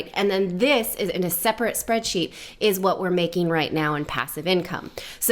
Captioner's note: none